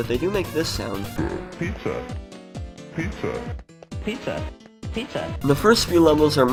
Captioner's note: "Pizza" in alternating pitches